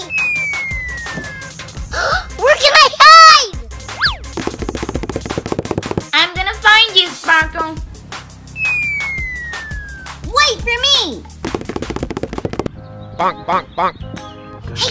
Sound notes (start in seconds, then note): 0.0 slide whistle whistling; 1.8 gasps; 4.3 feet stepping; 8.5 slide whistle whistling; 11.4 feet stepping